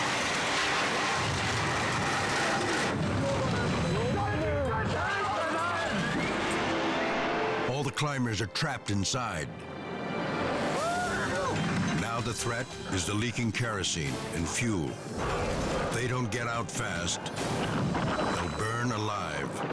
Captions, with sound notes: (helicopter crashing) (people shouting) All the climbers are trapped inside. Now the threat is the leaking kerosene and fuel. If they don't get out fast, they'll burn alive.